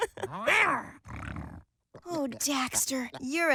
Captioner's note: Tess giggles; Daxter growls